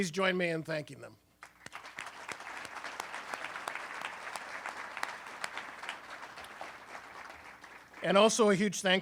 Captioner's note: applause